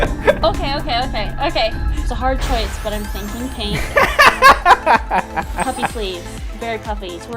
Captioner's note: laughter; laughter